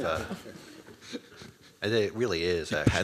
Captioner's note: laughter